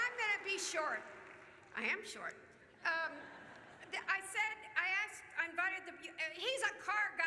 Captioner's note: applause